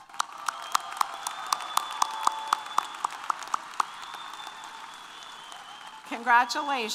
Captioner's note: applause & Cheers